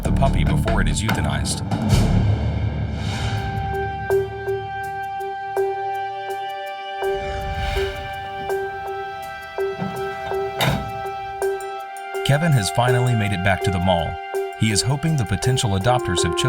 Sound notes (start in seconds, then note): 3.6 pensive music; 9.5 car door shuts